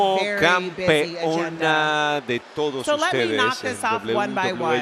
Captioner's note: applause